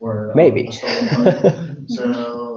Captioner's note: laughs